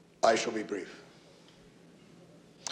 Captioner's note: none